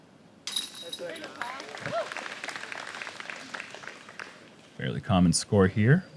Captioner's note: applause